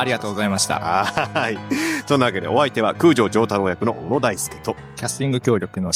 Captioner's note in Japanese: 笑い